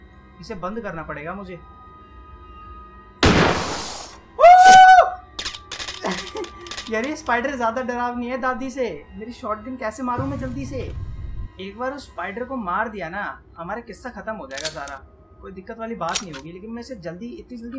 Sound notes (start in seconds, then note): 4.3 screams